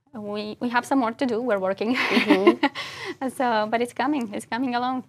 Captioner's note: laugh